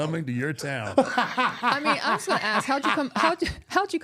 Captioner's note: R-Truth laughing